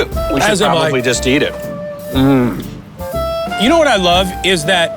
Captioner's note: groans